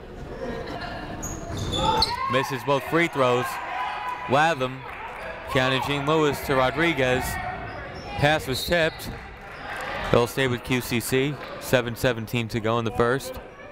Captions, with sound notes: Misses both free throws. Latham. Keyanna Jean-Louis to Rodriguez. Pass was tipped. (whistle tweeting) That'll stay with QCC. 7:17 to go in the first.